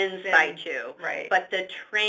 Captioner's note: voiceover